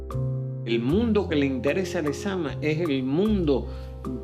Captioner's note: speaking Spanish